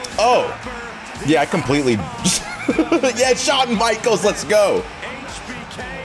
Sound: laugh

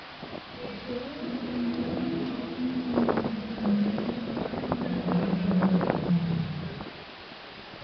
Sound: polar bear shouting

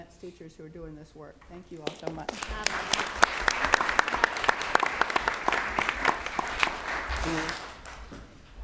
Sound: applause

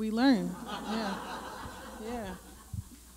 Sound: laughter

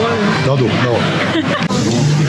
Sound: laughs

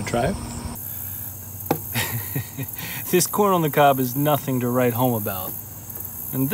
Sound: chuckle

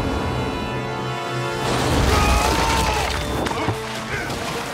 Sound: screaming

